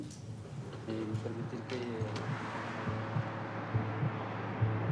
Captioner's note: speaking Spanish